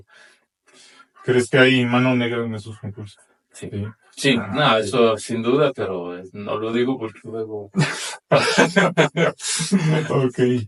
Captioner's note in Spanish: risas